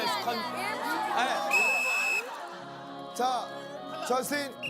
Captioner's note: he finally blows the whistle